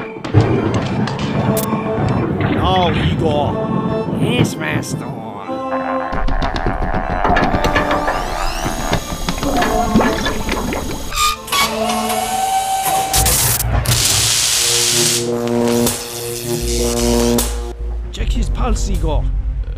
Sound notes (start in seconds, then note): 0.3 thunder; 6.1 mechanical noises; 13.1 thunder strike; 13.8 electric zapping